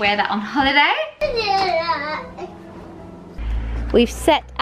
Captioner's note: baby babbling